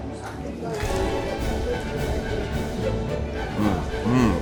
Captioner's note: triumphant music continues; teeth crunching